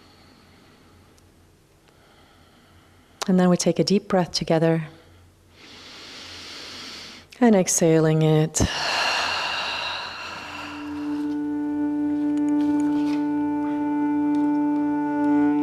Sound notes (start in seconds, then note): 12.1 sighs